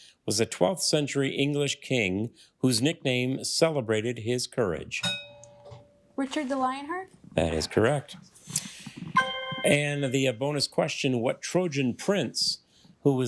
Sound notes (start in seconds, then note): 5.0 bell dings; 9.1 triumphant chime